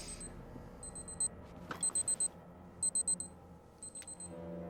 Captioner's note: watch beeping; suspenseful music